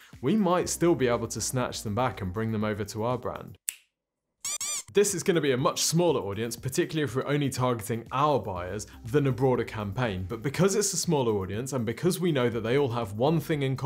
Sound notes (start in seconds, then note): 3.6 fingers snapping; 4.4 nose squeaking